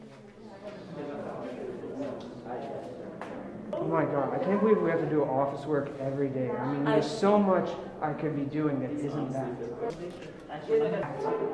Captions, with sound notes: (people chattering) - Oh, my God! I can't believe we have to do office work every day. I mean, there's so much I can be doing that isn't that!